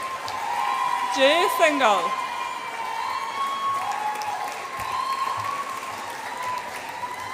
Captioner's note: audience applauds and cheers